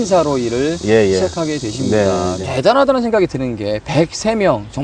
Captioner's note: laughs